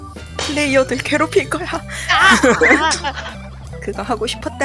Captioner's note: laugh